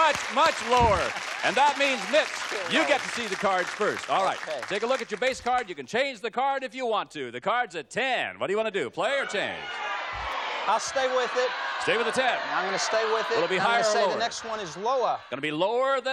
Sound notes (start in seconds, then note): 9.1 audience yells